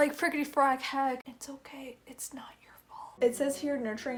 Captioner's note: whisper